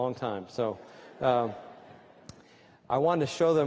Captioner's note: laughter